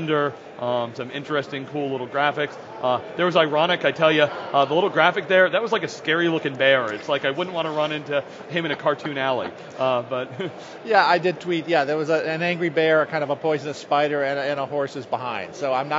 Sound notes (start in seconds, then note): 8.4 laughs